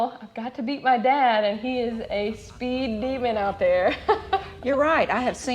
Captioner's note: laughs